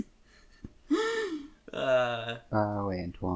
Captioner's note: giggling; breathy laughter